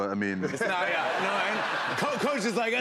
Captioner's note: laughter